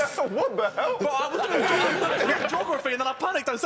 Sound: laughing

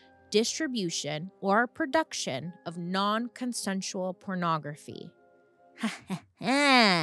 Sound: laughs

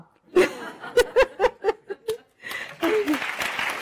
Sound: laughter; audience applause

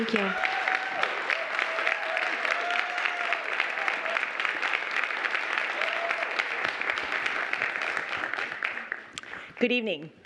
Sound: applause

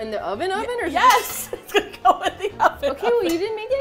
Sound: laughing

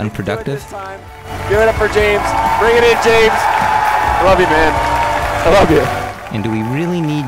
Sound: crowd cheering

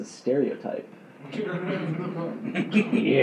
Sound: giggling

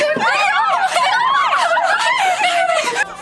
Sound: girls screaming

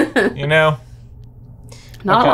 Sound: laughs

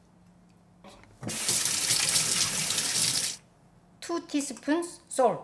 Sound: water running

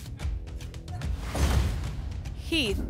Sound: whoosh; thump

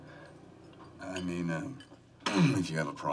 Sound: clears his throat

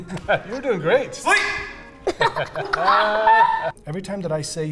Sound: laughing; laughs

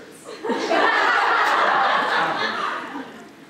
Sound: audience laughter

